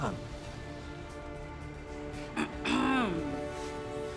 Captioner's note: Reiger clears throat